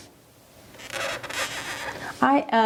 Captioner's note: pen squeaking